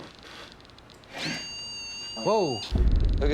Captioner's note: beep